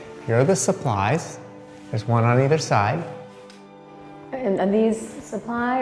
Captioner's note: none